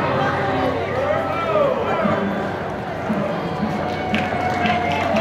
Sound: crowd laughter

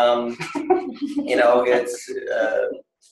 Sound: laughing

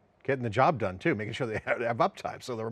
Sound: laughs

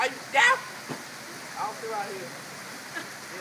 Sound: laughing in background

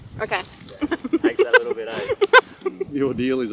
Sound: laughing

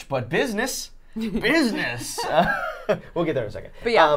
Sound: chuckling

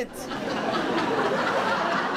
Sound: audience laughs

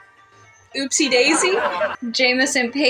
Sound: crowd Laughing

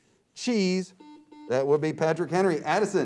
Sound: buzzer beeps

